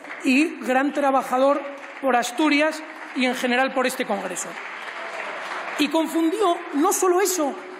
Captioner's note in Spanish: Aplausos